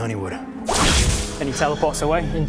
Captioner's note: whoosh!